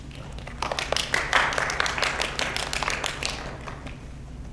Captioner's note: audience claps